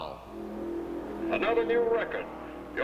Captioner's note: engine running